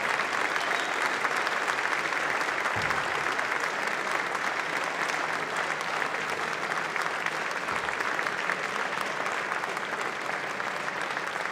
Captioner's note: clapping